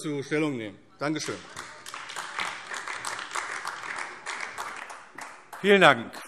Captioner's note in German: Beifall AfD